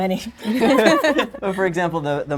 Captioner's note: all laughing